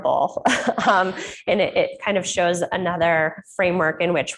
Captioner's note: laughs